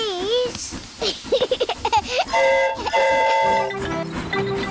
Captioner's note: giggles; train horn toots